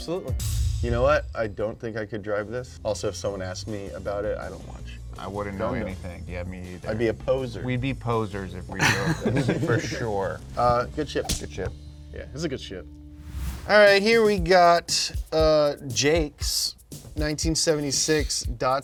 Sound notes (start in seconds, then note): 0.0 drum beats; 8.8 both chuckles; 13.2 air whooshing